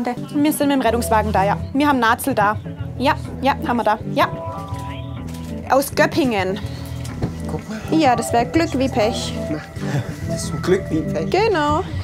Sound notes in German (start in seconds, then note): 4.6 Leise Stimme am Telefon